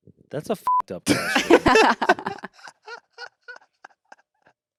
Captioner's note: beep; everyone laughs